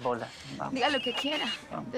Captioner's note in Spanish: Suena el celular